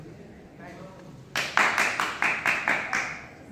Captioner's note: clapping